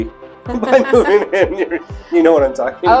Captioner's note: laughing